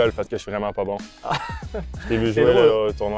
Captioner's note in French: rires